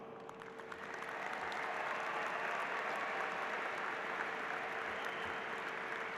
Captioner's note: applause